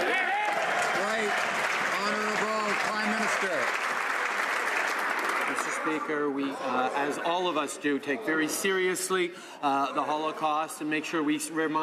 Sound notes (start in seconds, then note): 4.4 some Applause